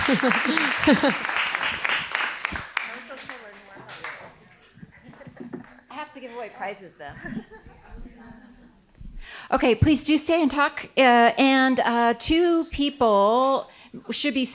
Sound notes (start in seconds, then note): 0.0 applause; 7.1 laughter; 7.5 indistinct conversation